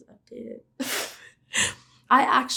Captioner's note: laughing